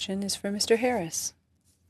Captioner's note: speaking French